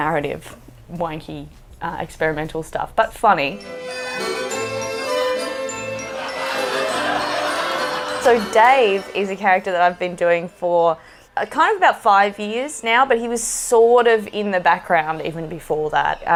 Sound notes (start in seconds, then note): 3.6 accordion plays; 6.0 laughter